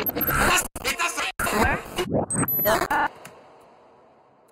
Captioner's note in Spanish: Voces distorsionadas